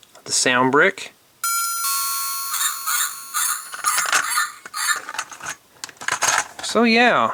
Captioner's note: sound of a door bell and barking dog